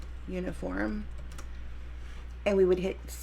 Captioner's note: keyboard typing